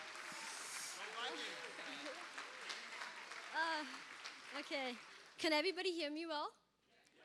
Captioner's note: cheers and applause